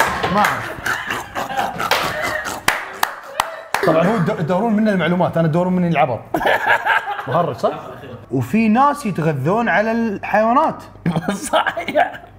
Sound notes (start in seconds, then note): 6.3 laughs; 11.1 laughs